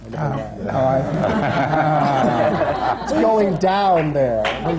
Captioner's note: applause